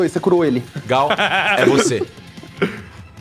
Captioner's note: laughs